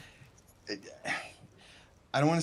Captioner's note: stammers